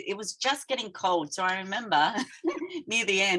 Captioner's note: chuckling